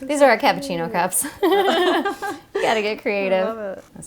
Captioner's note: laughing